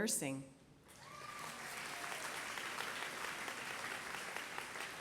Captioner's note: applause